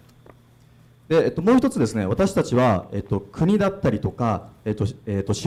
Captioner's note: speaking foreign language